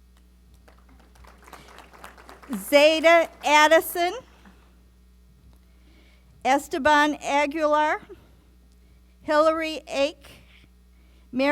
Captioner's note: applause